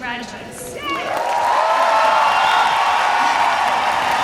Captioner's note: cheers and applause